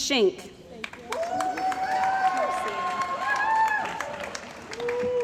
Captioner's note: cheering & Applause